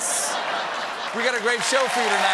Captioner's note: laughter; applause